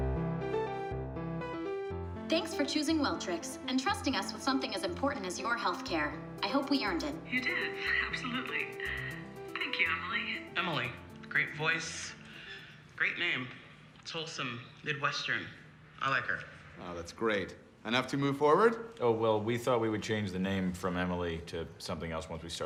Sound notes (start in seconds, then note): 6.4 woman on phone